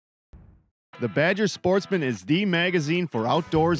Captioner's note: voiceover